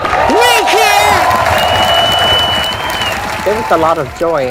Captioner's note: crowd cheering